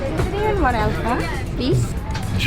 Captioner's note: air hostess speaks faintly